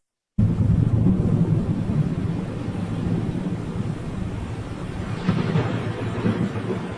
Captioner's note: waves rumbling and splashing continues